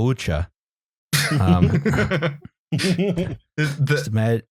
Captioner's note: laughter